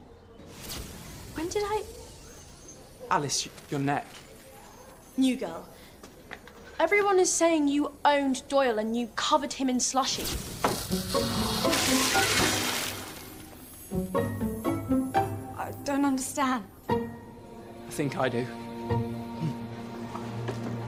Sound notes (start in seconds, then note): 0.5 magical buzzing sound; 10.4 magical buzzing sound; 11.1 splash